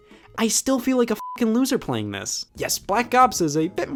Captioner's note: beep